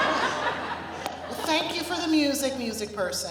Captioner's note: laughter